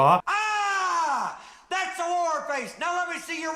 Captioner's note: screaming